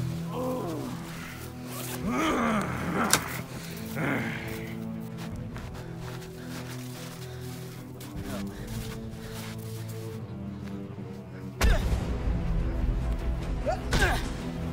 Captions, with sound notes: Ohhhhhnnngngn!!! (Bondage Growling) Oh no. (Hero Grunts)